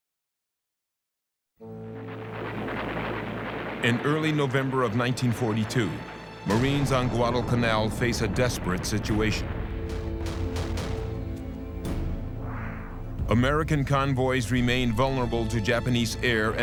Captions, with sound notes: In early November of 1942, Marines on Guadalcanal face a desperate situation. [gunfire] American convoys remain vulnerable to Japanese air